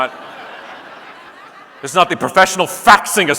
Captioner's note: audience laughing